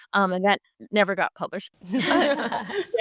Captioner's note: group laughs